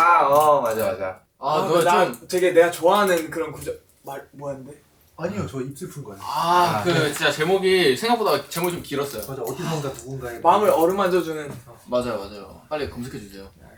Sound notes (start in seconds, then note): 6.4 hehehehe